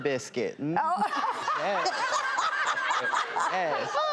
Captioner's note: laughter